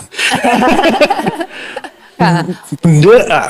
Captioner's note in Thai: เสียงหัวเราะ